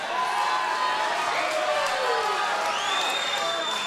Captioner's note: crowd cheering